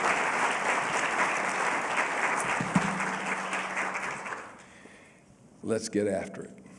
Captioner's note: applause